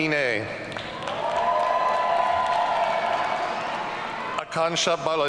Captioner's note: audience cheering